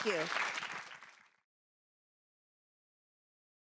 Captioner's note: applause